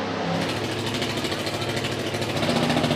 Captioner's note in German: Motorengluckern